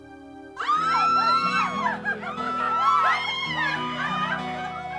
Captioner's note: shouting